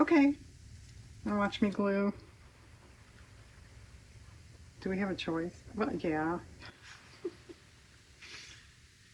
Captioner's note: laughs